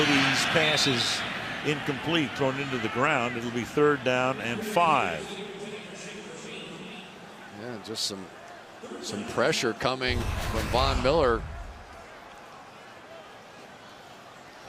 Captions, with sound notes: And Brady's pass is incomplete, throwing into the ground. It'll be third down and 5. [pa announcement] Yeah. Just some pressure coming from Von Miller up inside here.